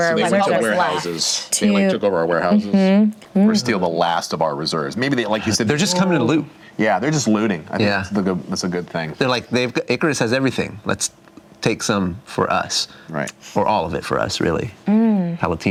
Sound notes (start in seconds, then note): none